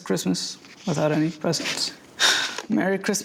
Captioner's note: exhales deeply